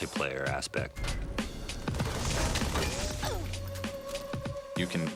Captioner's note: players "awww"